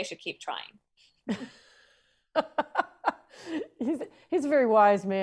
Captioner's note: laughs